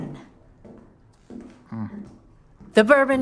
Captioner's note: footsteps